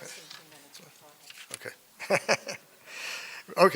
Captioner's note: laughs